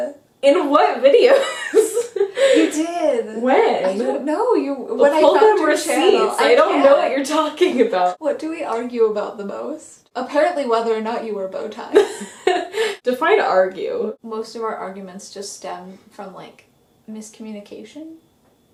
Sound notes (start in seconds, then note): 5.2 playfully arguing; 11.9 laughs